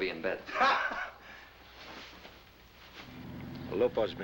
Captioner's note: laughing